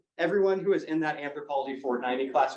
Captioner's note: none